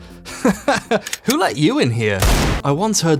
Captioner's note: laughs; gun cocks; gunshot